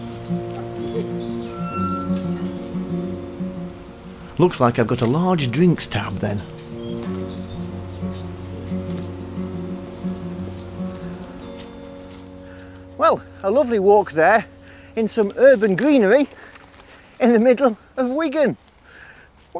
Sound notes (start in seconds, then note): 1.6 sound of gate opening